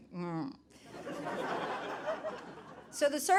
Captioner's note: audience laughing